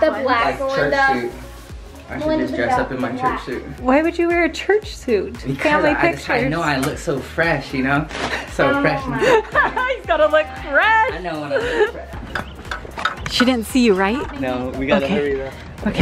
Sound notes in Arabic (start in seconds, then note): 9.1 يضحك